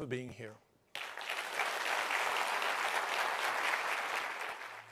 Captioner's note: attendees applauding